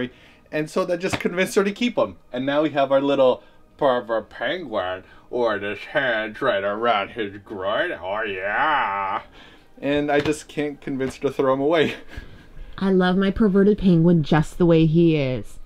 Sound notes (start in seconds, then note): 0.0 exasperated; 3.7 nasally voice; 10.0 snuffling laughter